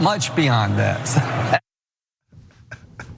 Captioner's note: laugh